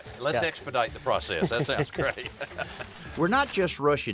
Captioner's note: laughs